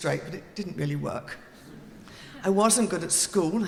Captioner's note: audience laughing